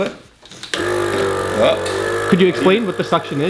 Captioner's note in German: Summen des Saugers